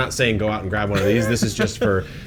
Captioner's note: laughs